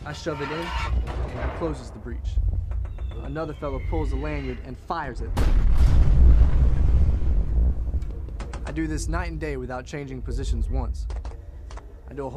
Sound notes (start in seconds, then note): 5.2 boom exploding